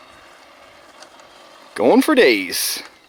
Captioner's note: remote control car whirs